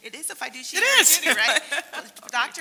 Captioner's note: laugh